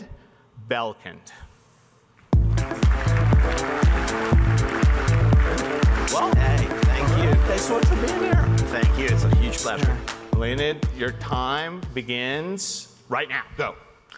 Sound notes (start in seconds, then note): 2.2 upbeat electronic music; 2.3 crowd clapping